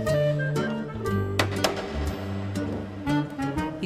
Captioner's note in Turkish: Kapı tıklama sesi